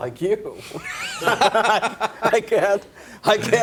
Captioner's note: laughter